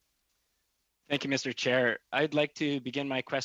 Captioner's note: speaking French